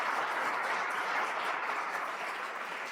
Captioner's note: applause